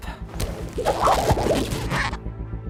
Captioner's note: rubbery squeaking